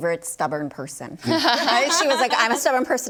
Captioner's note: panelists laughing